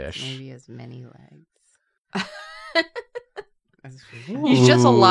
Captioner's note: laughs